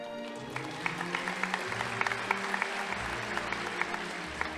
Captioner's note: audience applauding